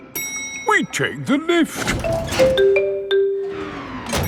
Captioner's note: elevator dings